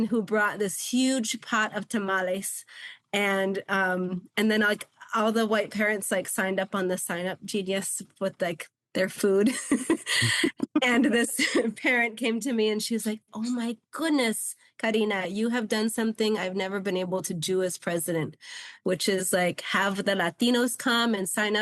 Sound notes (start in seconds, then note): 9.4 giggles